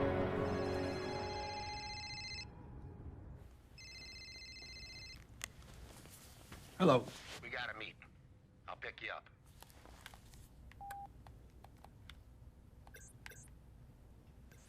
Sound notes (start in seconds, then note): 0.0 ominous music; 1.4 phone ringing